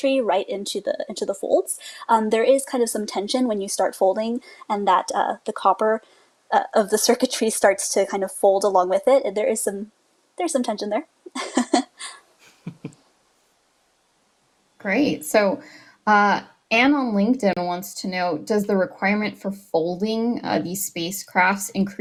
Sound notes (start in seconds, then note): 12.4 chuckles; 12.6 laughs